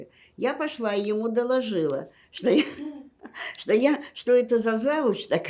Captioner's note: laughing